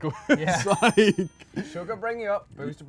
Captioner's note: laughs